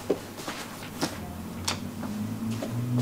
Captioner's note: distant traffic noise